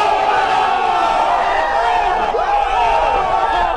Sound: shouting

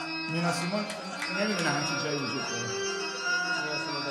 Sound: speaking in farsi

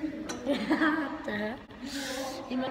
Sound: giggling

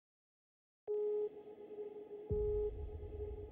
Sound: alarm blaring

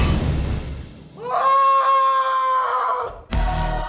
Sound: screams

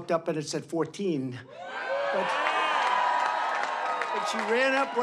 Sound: applause

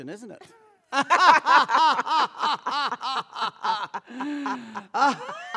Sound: laughs; laughs more

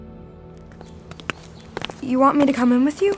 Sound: footsteps

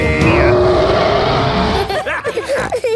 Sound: roaring; laughter; snorting

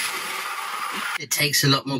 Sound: sound of a hand blender working

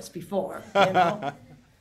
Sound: laughing

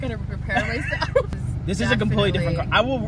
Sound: both laughs; laughs

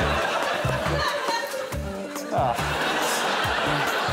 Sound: laughter

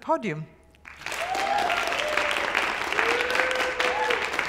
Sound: applause

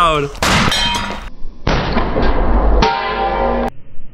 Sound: seat exploding

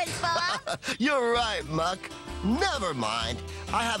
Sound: laughing

